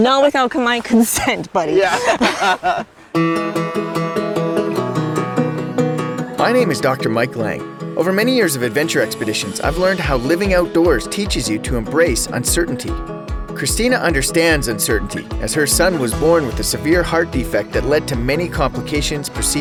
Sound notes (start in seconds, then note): 0.9 laughs; 3.1 upbeat music